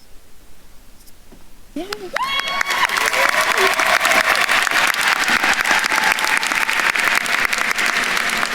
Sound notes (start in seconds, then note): 1.8 attendees cheering and applauding